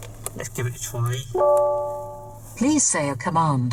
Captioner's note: chime from voice control system